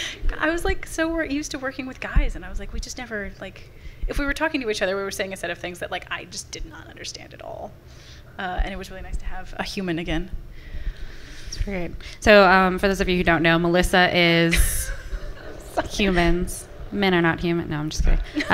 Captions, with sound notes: I was so used to working with guys, and if we were talking to each other, we were saying a set of things that I just did not understand at all, and it was really nice to have a human again. That's great. So for those of you who don't know, Melissa is-- (laughter from the audience) Humans- Men are not human- no I just kidding.